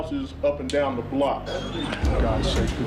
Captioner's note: dog whining